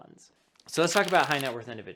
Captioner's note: paper rubbing